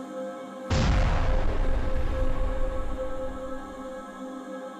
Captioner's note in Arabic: انفجار مدوٍ